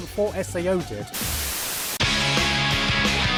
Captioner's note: TV static